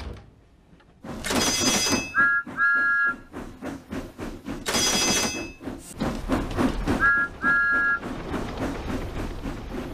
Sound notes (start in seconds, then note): 1.4 signals clang; 2.0 thomas whistles; 3.3 signals clang; 6.9 thomas whistles